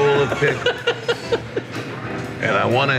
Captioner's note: laughing